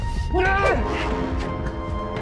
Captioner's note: shouts